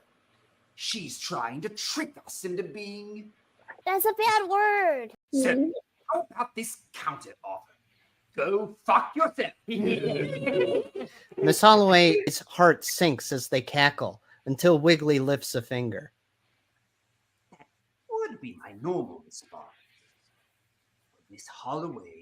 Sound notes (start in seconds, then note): 9.7 laughing